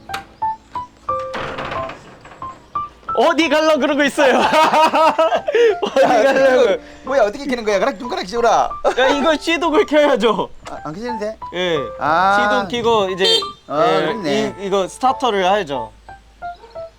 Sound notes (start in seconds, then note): 4.1 both laughing